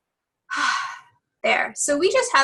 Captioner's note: deep sighing